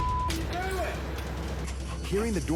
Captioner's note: engine starts